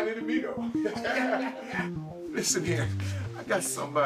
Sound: both laughing

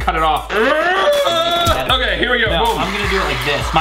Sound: struggling sound

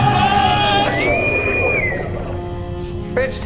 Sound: intercom whistles

